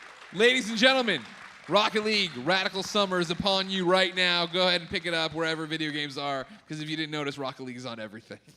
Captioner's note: applause